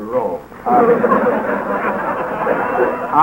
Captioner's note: laughter